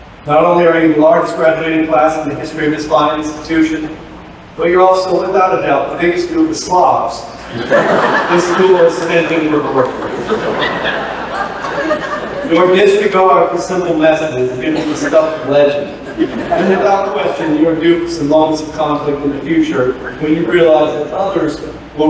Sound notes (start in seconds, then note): 7.4 laughter; 15.8 laughter